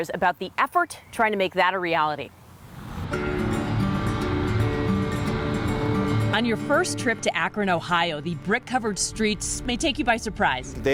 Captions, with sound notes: about the effort, trying to make that a reality. (upbeat music) (cars whizzing) On your first trip to Akron, Ohio, the brick-covered streets may take you by surprise.